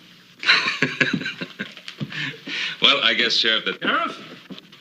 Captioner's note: laughs